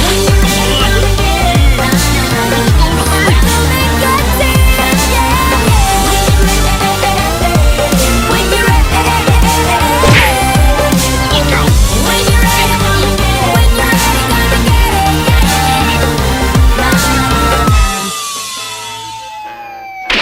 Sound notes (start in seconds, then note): 10.0 crash!; 13.8 car brakes hard; 16.5 car Falls; 20.0 car gets Crashed & Damaged